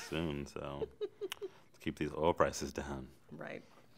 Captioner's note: chuckles